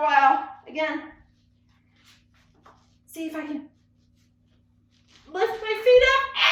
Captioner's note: screams